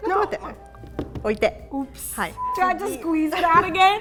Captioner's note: speaking in Japanese